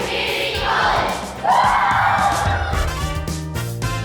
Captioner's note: all whoop